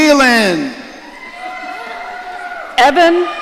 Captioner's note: audience cheering